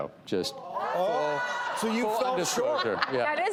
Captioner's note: audience gasping